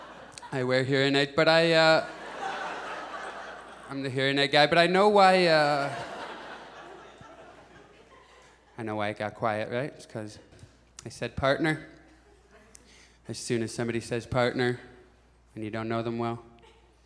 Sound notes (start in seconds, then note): 0.0 audience laughs; 5.7 audience chuckles